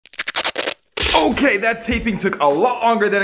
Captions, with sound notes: (tape unsticking) - Okay, that taping took a lot longer